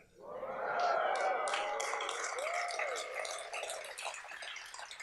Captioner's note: audience cheers and claps